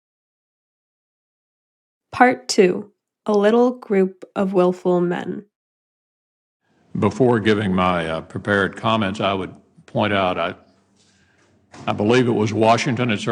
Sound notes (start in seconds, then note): 6.8 soundbite of archived recording